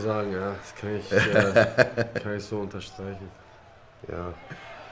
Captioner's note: lachen